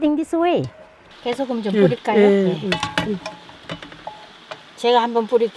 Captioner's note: speaking foreign language